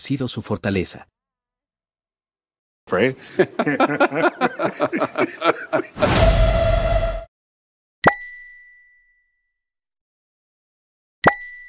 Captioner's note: laughs